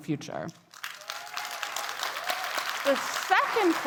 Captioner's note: attendees cheering and clapping